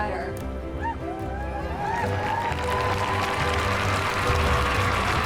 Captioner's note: applause and cheering